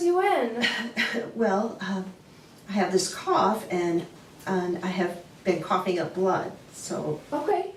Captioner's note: coughing